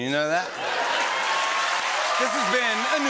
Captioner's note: slurred; cheering and applause